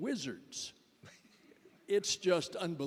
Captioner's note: laughter